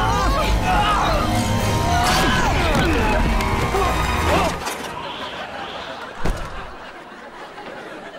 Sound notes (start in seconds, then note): 4.8 laughing